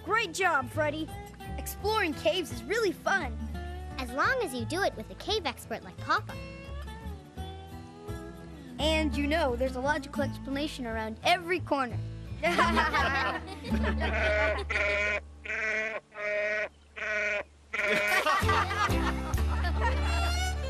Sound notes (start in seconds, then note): 14.5 laughing; 16.9 bleating